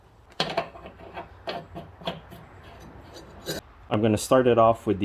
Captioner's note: bolt screwing